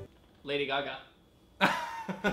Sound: laughs

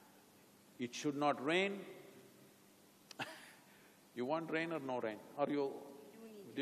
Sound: laughs

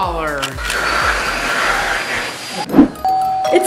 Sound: air blowing; doorbell ringing

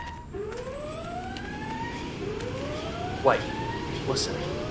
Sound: motor sound becomes louder, faster

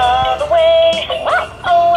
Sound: ruff

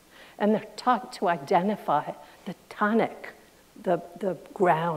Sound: none

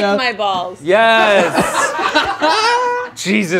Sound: group laughing

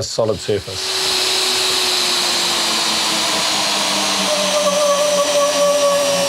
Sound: drilling

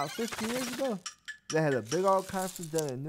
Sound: clock ticking

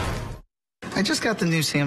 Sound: SFX: "Built Ford Tough" Slam

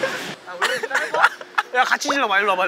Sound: regained his laughter

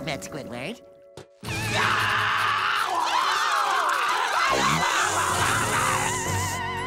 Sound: screaming

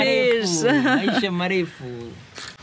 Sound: Swahili; Swahili

